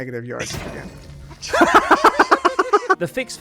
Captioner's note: bonk; thunk; laugh